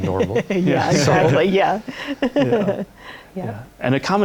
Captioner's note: laughter